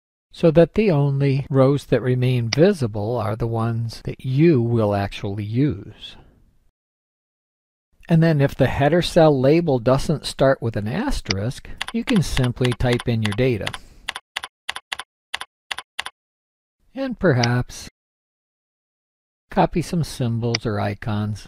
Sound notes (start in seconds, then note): 13.7 typing noise